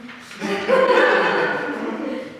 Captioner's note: audience laughs